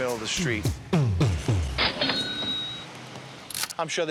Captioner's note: ka-ching